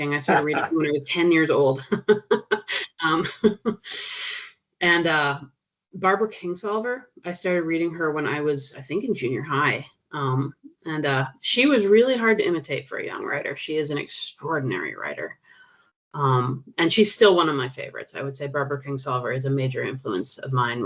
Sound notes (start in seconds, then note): 1.8 chuckling